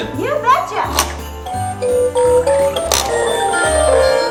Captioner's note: obscure beeps